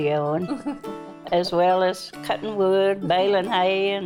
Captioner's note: chuckles